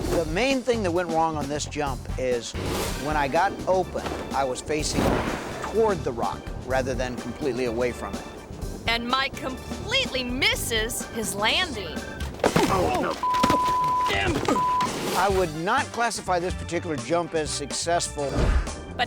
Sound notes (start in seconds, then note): 11.8 thuds; 13.0 beep